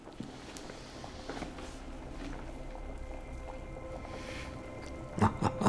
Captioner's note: the sound of boiling water; Jesse laughs